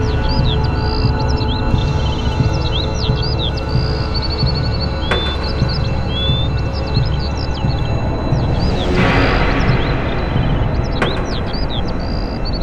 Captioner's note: birds singing